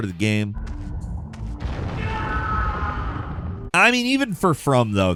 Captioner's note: character screaming